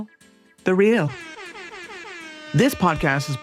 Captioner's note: horn honking